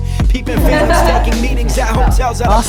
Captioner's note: group laughter